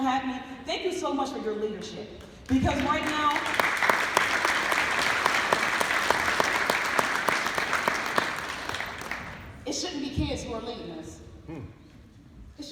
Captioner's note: applause